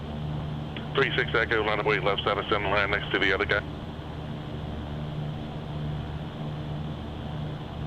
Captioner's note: radio